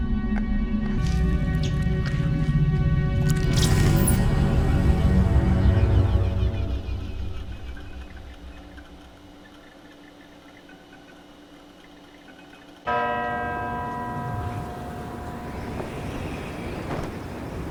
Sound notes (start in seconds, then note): 12.8 church bell tolls